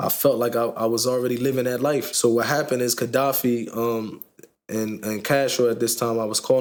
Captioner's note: none